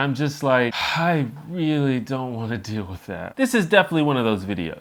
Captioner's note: sigh